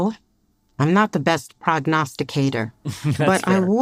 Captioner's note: laughs